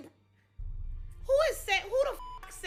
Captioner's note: beep